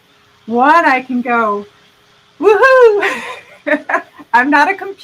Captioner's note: laughing